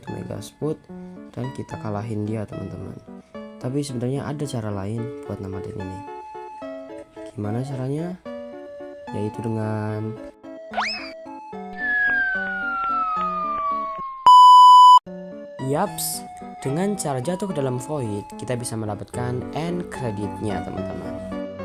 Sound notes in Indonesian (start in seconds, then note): 11.6 SFX Jatuh